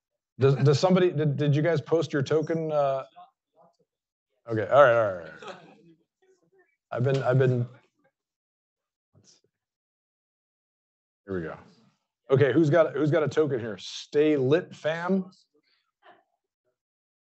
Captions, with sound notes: Does somebody, did you guys post your token? Okay, all right, all right, all right. (student laughing) I've been, I've been... Let's see. Here we go. Okay, who's got a token here? Stay Lit Fam?